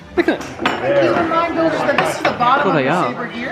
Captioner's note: bangs them on table